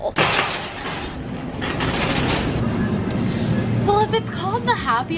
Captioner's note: cart rattling